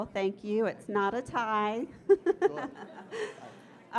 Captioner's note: laughing